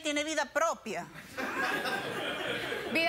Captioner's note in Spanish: risas